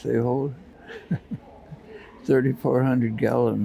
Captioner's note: chuckling